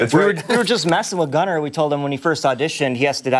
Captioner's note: laughter